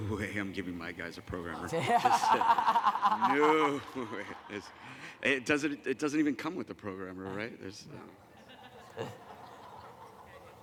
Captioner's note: laughter